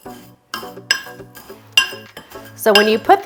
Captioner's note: salts clicking